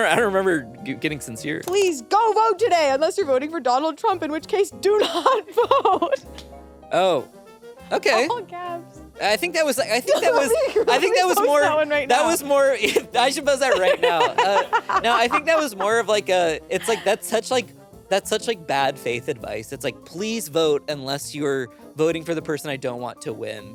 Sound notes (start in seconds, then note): 5.0 laughs